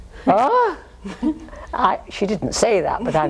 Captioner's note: exclaims